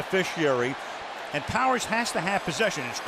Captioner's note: cheering